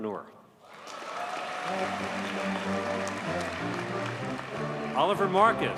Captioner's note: audience cheers and applauds